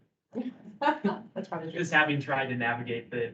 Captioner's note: laughs